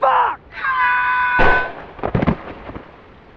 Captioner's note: teddy screams; gunshot, screams stop; body hits ground